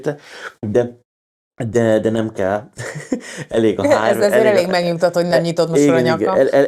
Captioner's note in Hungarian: nevetés